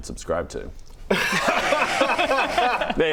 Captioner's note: smooth laughter